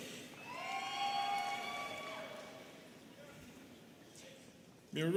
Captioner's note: students cheering